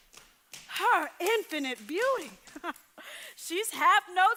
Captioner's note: chuckles